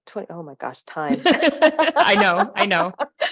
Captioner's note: laughs